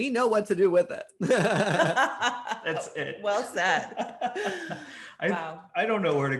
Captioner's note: all laughing